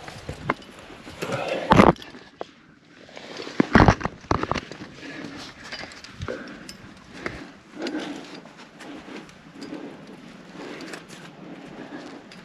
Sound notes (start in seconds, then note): 4.6 heavy breathing